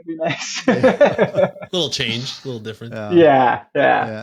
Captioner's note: laughs